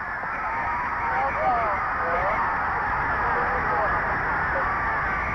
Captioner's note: crowd cheering; referee whistling